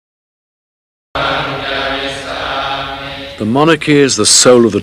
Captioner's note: monks praying